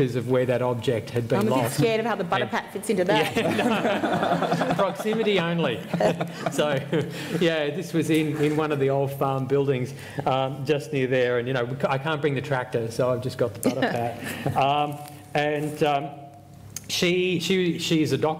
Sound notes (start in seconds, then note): 3.2 laughter